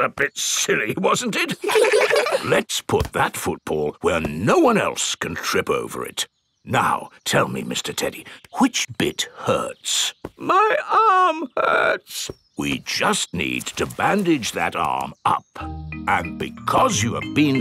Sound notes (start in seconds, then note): 0.1 in normal voice; 1.3 kids laugh; 10.8 in teddy's voice; 13.1 in normal voice